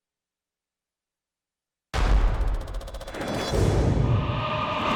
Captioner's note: rapid clacking